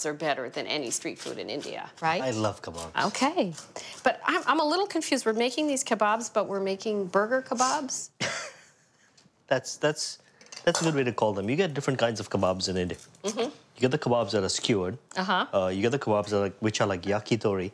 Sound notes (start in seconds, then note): 7.8 laughing